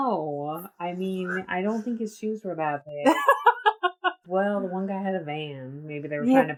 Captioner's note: laughs